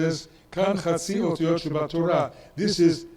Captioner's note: speaks in foreign language